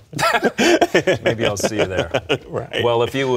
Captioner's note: laughter